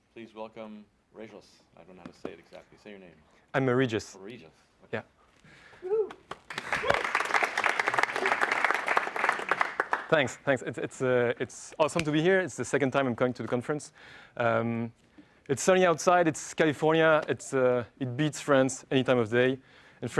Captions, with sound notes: >> Please welcome, Regis. I don't know how to say it exactly, say your name. >> I'm Regis. >> Regis. >> Yeah. >> [APPLAUSE] >> Thanks, it's awesome to be here. It's the second time I'm coming to the conference. It's sunny outside, it's California. It beats France any time of the day.